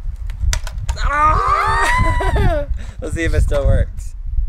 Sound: cheering

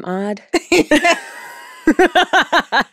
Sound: laughter

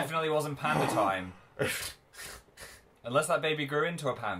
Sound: laughs

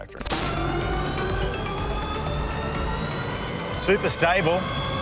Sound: electronic car motor

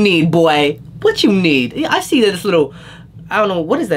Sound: inhales

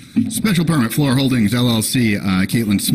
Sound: official voice

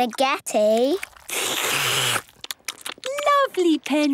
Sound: all slurping

